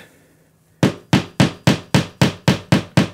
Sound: hammering

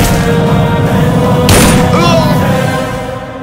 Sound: gunshot; gunshot

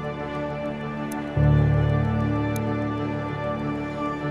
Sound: mouse click

